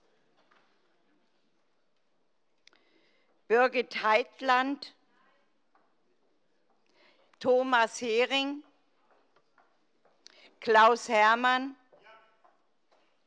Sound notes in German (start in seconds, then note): none